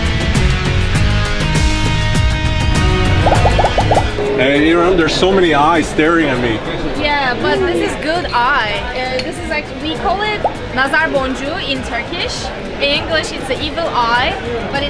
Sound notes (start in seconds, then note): 0.3 upbeat music; 3.2 gentle popping